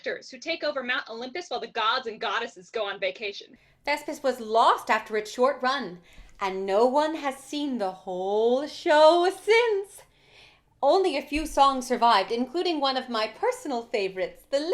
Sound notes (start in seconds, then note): none